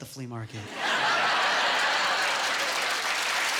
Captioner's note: laughing and applauding